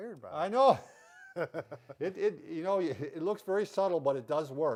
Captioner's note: laugh